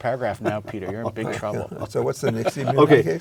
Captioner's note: laugh